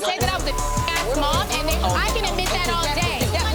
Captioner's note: beep